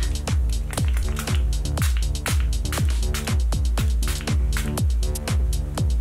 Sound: bottle dispensing spray

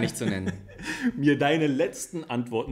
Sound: laughs

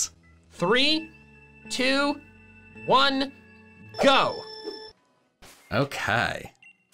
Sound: machine beeping

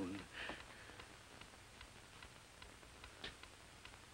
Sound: clock ticking

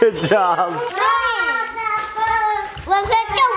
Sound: laughs; babbles

